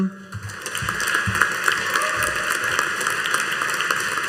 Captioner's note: audience applauding